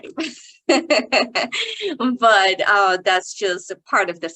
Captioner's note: chuckles